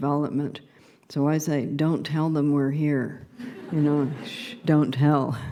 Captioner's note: laughter